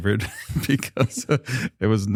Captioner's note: chuckles